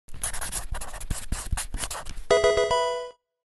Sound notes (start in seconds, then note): 0.1 marker scratching; 2.3 electronic video game chime